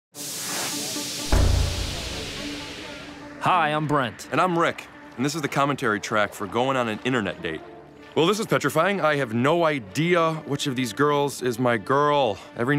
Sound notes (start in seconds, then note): 1.2 loud Thud; 1.4 techno Music